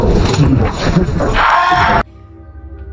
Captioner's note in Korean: 비명